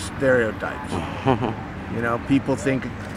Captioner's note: softly chuckles